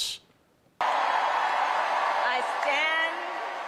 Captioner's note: attendees cheering